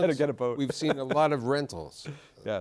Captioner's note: laughs